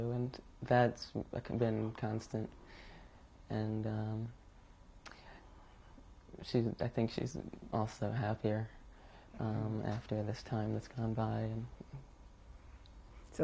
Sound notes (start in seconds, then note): 3.9 pauses for 3 seconds